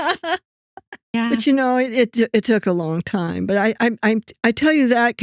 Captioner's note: laughing